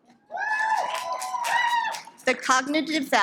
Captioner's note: audience applauds